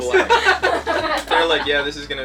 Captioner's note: all laugh